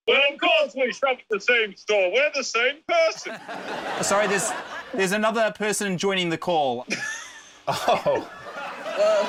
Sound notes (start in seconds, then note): 3.9 laughter